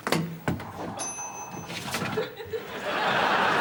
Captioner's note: ping